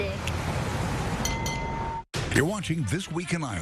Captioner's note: bell ringing